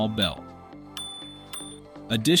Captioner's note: bell Sound